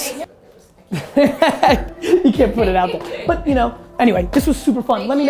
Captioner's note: laughs